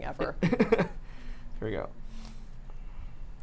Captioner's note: laughs